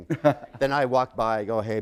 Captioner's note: chuckle